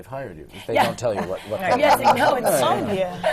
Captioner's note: laughs